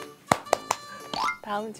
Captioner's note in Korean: 짝짝